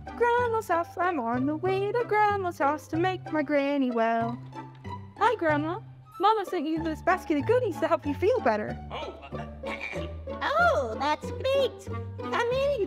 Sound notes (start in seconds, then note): 8.9 clears throat